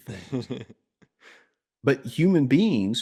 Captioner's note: laughs